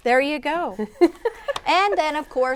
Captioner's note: laughing